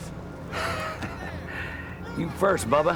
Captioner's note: chuckles